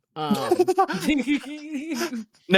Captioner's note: laughing